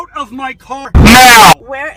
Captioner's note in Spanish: Distorción